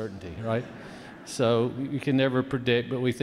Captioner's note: audience laughs